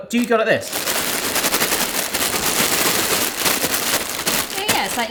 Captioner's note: frozen fries rustling